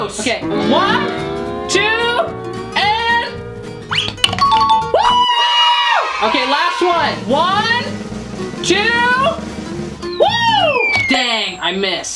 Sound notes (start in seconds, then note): 3.9 whistles; 4.4 bell dings